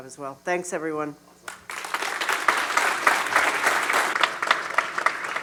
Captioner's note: applause